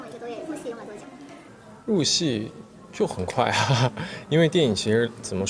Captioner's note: laughs